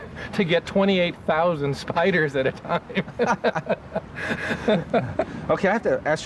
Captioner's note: laughing